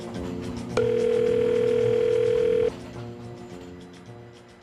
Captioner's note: phone ringing